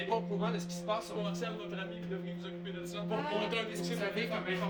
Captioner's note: more confused arguing and screaming